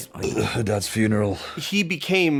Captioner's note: belches